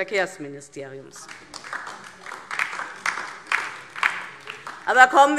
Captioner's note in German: Beifall DIE LINKE